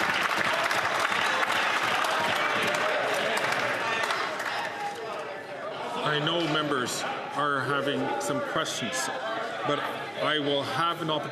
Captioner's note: applause